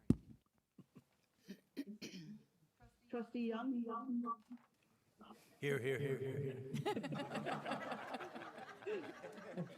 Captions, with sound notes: - Trustee Young. - Here. (voice echoing) (group laughing)